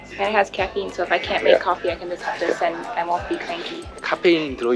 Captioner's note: haha